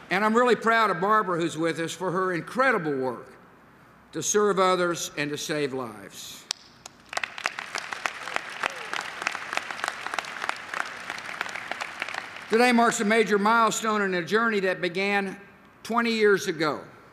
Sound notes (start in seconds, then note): 6.8 applause